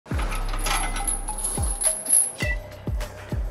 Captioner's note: rummaging through things